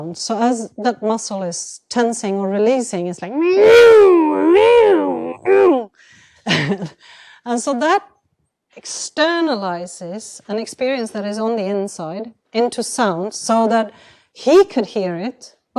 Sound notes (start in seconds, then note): 3.2 roaring; 6.0 chuckles